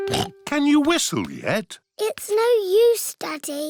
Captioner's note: snorts